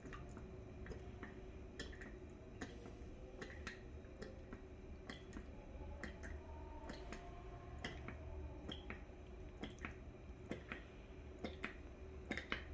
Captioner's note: pouring ink sound